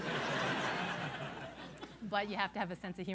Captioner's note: laughter